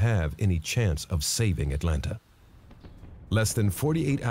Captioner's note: shots fired